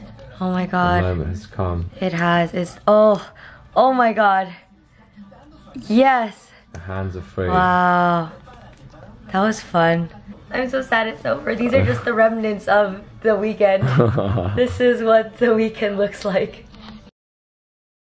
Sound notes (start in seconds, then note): 13.8 laughs